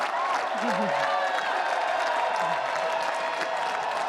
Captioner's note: cheering